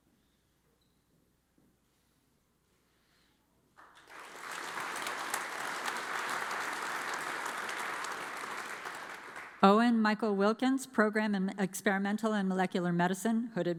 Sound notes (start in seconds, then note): 3.8 audience applauds